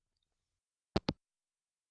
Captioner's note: hangup